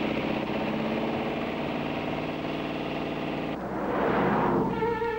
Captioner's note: engine revving